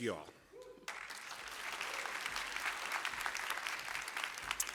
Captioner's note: applause